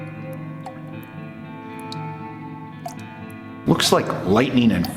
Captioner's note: water dripping continues; mysterious music continues